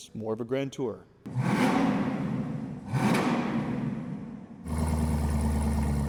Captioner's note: engine revving; engine rumbling